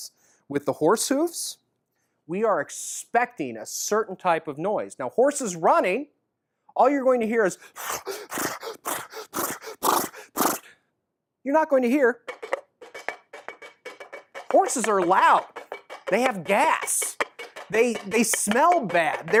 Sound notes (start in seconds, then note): 7.7 horse breathing sounds; 12.2 coconut shell horse hoof sound